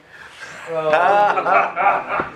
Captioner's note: laughter